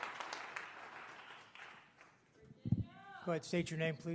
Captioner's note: applause